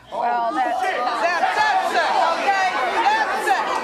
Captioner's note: audience shouting